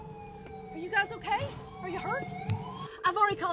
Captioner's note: sirens